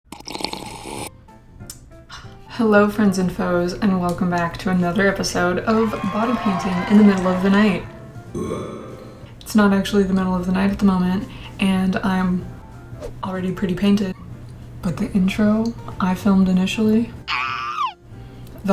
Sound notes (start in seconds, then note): 1.8 loud sipping; 8.3 burp